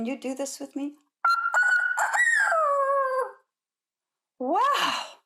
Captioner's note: imitates rooster crowing